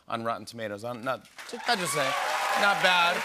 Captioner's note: cheers and applause